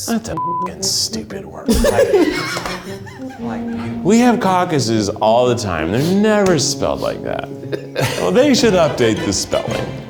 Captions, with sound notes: - That's a (beeps) stupid word. (group laughs) We have caucuses all the time, and they're never spelled like that. They should update the spelling.